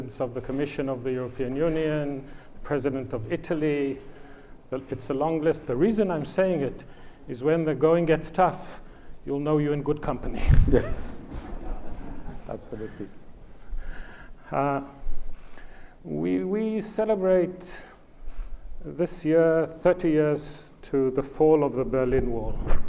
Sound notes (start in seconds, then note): 10.2 laughs; 10.7 audience laughs